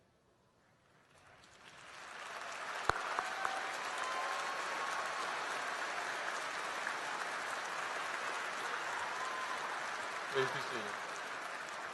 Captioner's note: applause